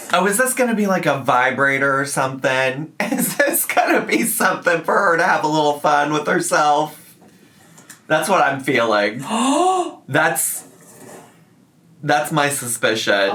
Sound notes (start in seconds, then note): 9.2 gasps